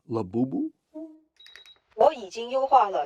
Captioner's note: program chimes and trills